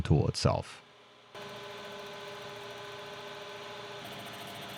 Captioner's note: machine whirring